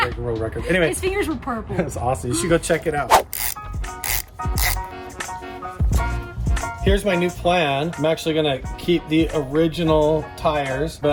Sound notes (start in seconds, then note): 3.9 tool ratcheting